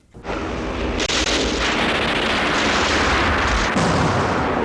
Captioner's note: explosions booming